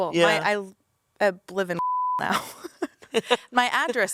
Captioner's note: beep